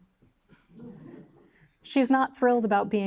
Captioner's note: audience chuckling